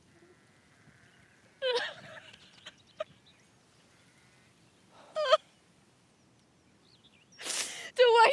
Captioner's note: blodeuwedd weeps